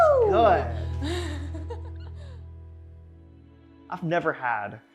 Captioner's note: laughs